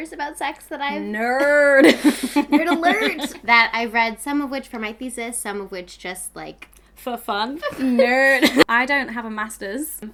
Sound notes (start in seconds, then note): 1.2 laughing; 7.6 laughs